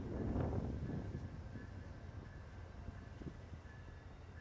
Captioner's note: wind blowing